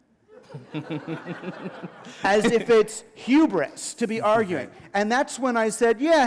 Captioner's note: laughter